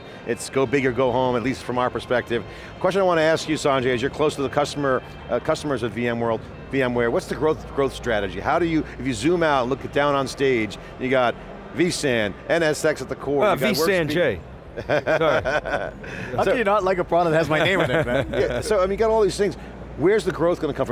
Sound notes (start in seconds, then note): 14.7 laughs